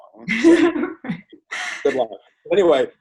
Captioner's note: laughs